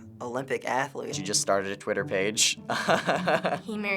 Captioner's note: laughs